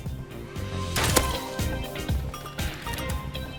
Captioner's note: thwup